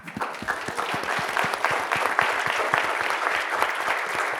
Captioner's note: audience applauds